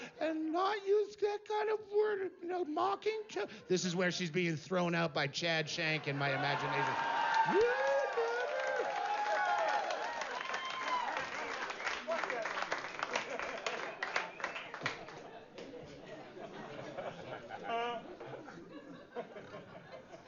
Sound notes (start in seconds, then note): 3.5 voz normal; 6.4 gritos ahogados; 9.2 vítores y aplausos